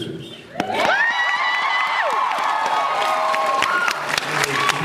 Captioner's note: cheers